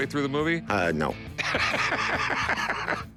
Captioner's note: laughs